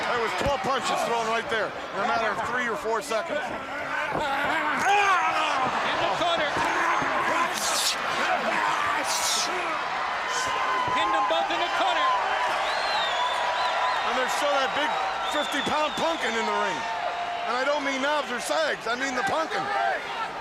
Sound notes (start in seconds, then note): 4.4 crowd cheering; 5.3 crowd chatter; 7.3 crowd cheering; 8.0 crowd chatter; 15.2 crowd cheering; 20.0 crowd chatter